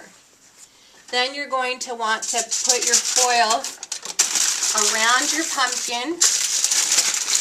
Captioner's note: rustling of the foil